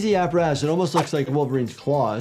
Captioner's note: graphics swishing